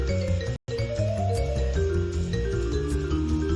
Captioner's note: none